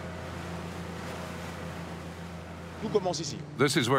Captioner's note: motorboat buzzing; speaking in foreign language